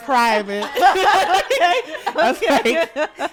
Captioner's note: all laughing